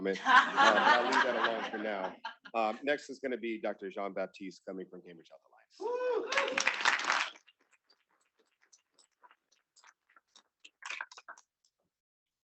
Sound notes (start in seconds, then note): 0.1 students laughing; 6.2 students clapping